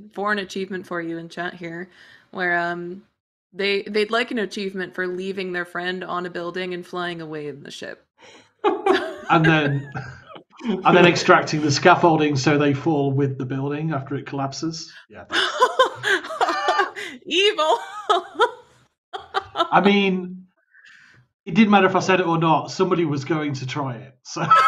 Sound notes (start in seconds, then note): 15.3 laughter; 17.6 laughs